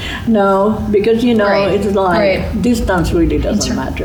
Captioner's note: laughing